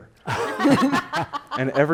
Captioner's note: panel laughing